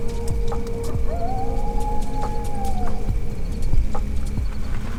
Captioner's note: crickets chirring; coyote howls